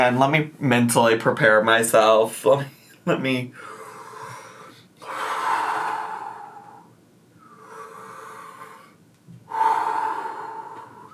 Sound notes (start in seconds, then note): 3.6 inhales and exhales